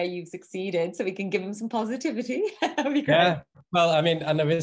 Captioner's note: laughing